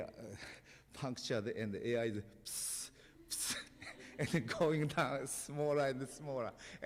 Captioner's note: laughter